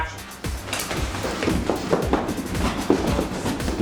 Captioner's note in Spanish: caminando fuertemente sobre los pisos de madera